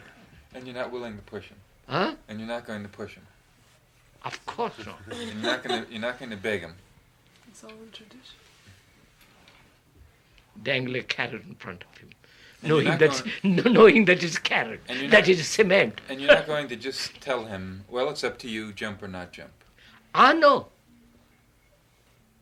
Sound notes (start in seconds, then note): 15.8 laughs